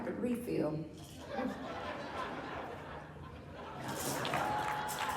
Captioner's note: audience laughs; audience cheers and applauds